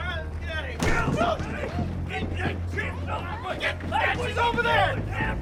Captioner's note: group clamoring